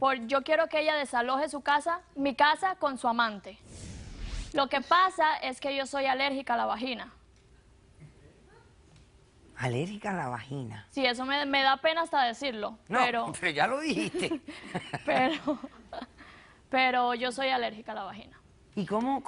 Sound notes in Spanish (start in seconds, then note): 13.9 Risas